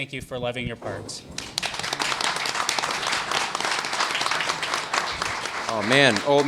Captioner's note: applause